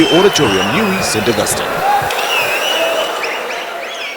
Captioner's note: wild applause and cheering for 22 seconds